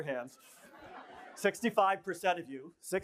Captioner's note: laughter